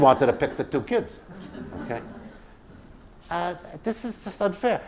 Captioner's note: laugh